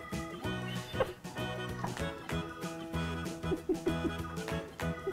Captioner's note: laughing